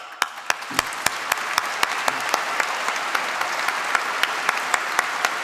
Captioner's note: applause